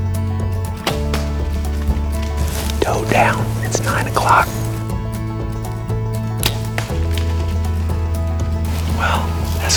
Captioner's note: whispering